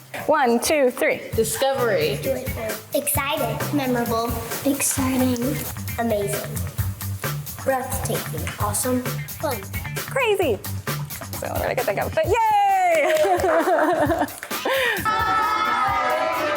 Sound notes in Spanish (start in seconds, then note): 12.7 los asistentes aplauden; 13.0 el guía se ríe